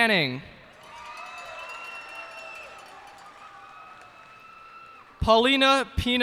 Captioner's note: cheers and applause